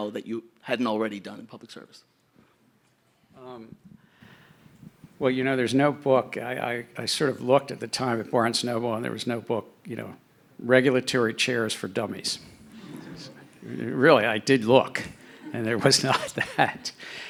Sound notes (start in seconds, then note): 12.6 audience laughing